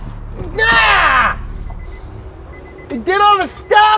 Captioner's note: screaming